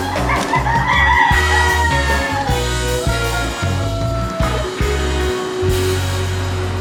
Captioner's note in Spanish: Gallos cantando